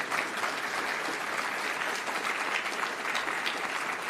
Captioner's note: applause